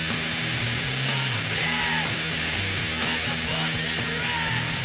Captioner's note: singer screaming